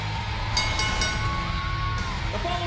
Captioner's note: bell ringing